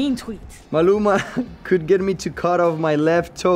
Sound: laughs

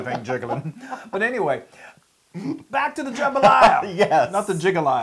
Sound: laugh

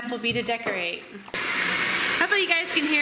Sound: electric mixer running

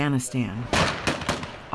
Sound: gun fires

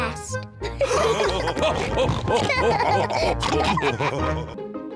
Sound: all laughing

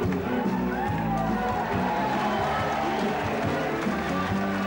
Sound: crowd cheering

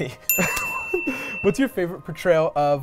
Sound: dinging

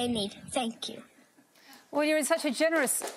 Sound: applause

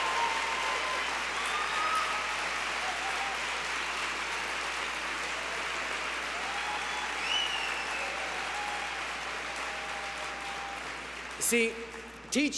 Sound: cheers & applause

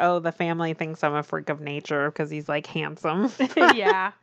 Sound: laughs

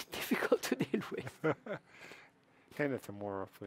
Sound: chuckles

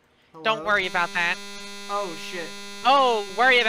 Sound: game crash buzz

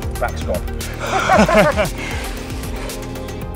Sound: laughing

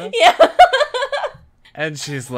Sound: laughs

